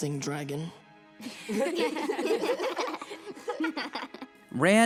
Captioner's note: laughing